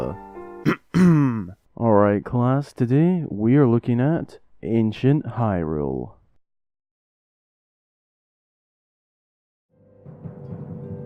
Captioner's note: coughs